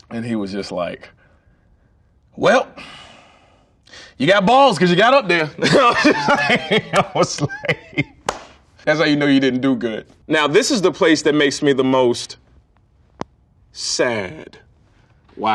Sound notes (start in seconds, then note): 5.6 laughs